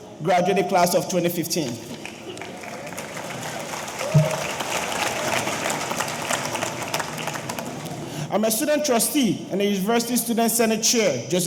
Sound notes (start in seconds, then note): 2.0 audience applauding; 2.4 audience cheering